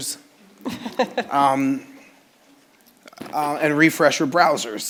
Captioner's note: laughing